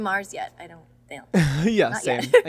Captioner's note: laughs